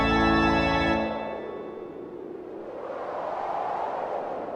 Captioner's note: wind blowing